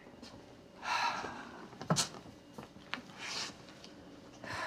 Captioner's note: Mama exhaling